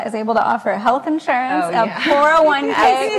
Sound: laughs

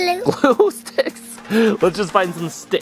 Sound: laughing

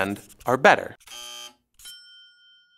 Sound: buzzer; dings

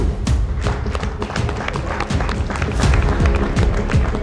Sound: hands clapping

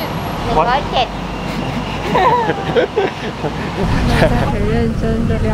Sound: tactical embarrassed laugh

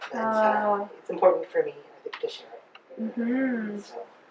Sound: audience mhms

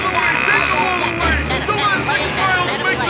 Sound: cheering

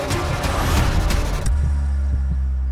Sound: sound effect playing

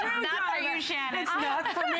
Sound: laughter

